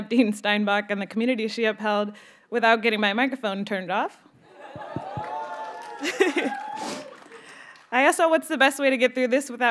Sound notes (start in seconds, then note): 4.6 audience members cheer; 4.8 microphone clicks; 6.0 chuckles